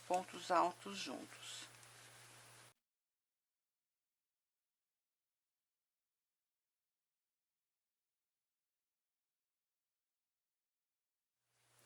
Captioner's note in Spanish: en español